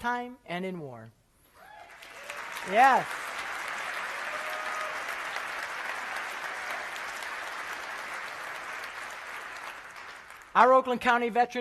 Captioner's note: applause